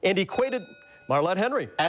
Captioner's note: bell dings